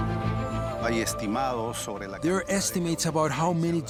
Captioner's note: speaking Spanish